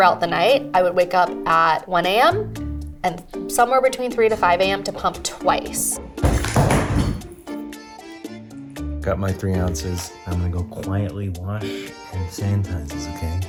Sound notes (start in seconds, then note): 6.3 thudding